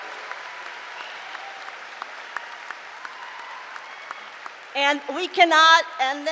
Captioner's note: cheering